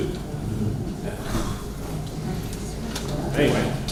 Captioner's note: grumbling From Audience